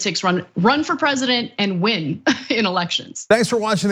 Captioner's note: laugh